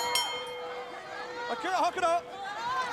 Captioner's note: bell ringing